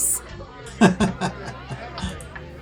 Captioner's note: laughter